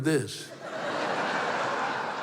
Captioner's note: laughter